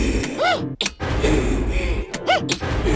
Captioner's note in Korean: 스위치 소리; 스위치 소리